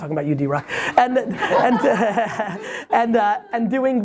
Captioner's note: everybody laughs